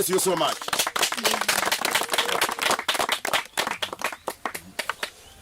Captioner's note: applause